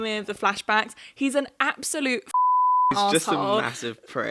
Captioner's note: beep